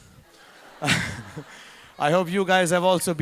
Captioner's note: audience laughing